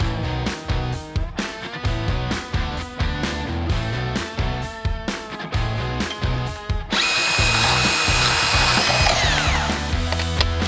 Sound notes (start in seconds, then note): 6.8 saw buzzing